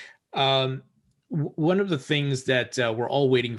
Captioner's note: none